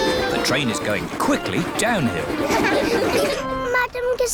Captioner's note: laughter